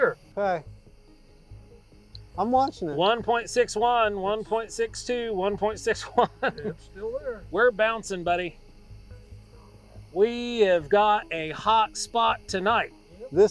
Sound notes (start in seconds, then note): 5.4 laughs